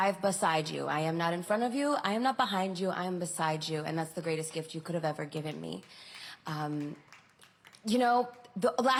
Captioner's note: applause